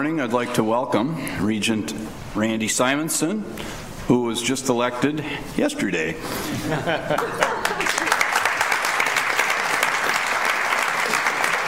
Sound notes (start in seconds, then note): 6.4 chuckles; 7.4 applause